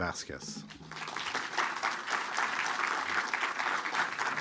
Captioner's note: applause